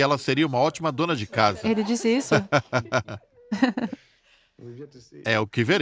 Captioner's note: Charles laughs loudly